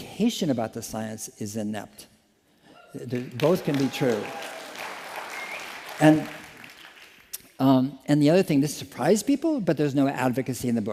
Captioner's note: applause